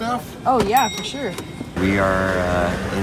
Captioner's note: ping